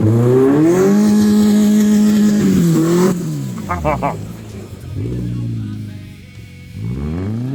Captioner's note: engine revving; laughing